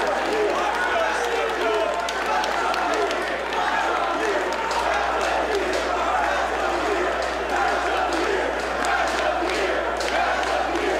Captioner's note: applause